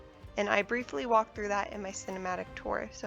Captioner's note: none